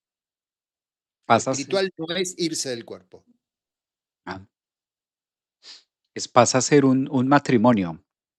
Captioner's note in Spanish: resoplido